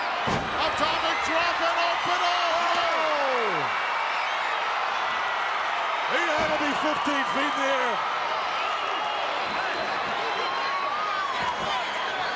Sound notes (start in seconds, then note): 3.6 crowd cheering; 7.8 crowd cheering